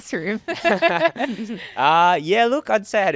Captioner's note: everybody laughing